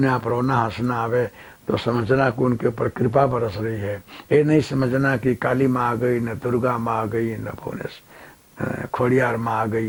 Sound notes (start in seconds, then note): 1.3 heavy breathing